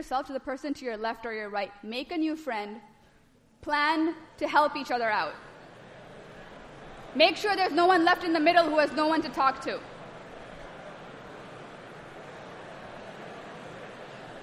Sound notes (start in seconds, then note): 10.3 students chatting